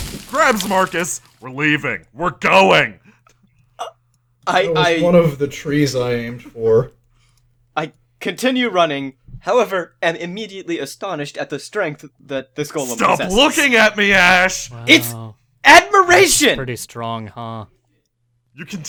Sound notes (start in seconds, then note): 16.2 deadpan